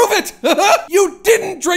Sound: Max laughs victoriously

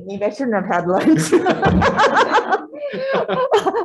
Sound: audience laughing

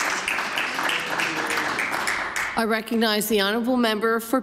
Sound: some Applause

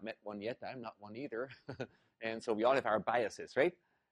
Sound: laugh

